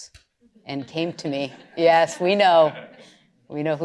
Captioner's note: laughter